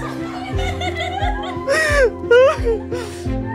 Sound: giggles

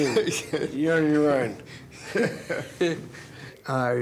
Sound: they laugh

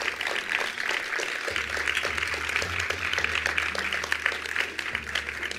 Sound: attendees applauding

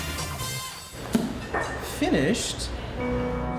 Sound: thud

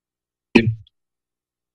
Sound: mic thuds

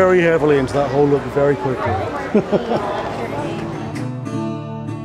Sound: laughing; mellow music

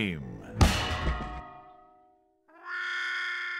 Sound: upbeat music ends; bang; muted trumpet waah

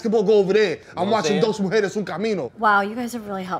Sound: spanish

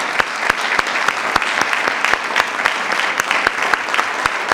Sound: attendees applauding

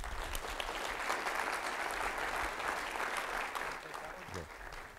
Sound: audience applauding

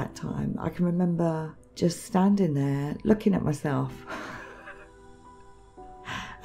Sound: chuckling

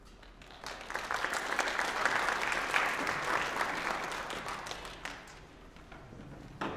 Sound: applause

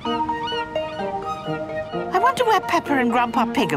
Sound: gulls squawking

